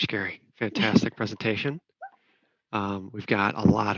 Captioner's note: laughs